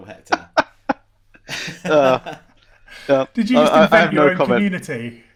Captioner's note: laughing